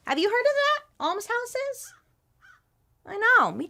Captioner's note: crow cawing